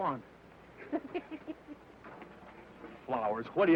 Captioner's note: Baldy laughs